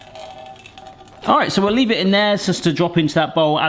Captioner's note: liquid drips